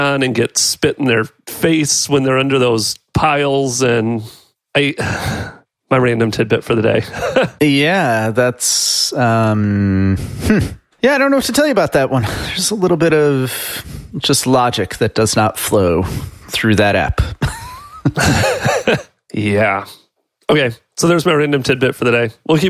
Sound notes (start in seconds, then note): 7.1 chuckles; 17.4 laughs